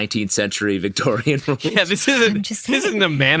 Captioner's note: laughing